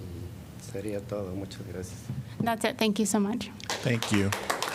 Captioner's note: applause